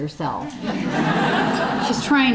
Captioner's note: audience laughing